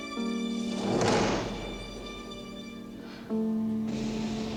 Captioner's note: door slamming